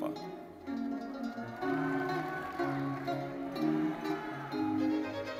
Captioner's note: audience cheering and applauding; orchestral music continues